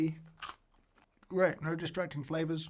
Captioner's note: crunch